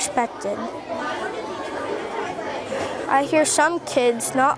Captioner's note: students chattering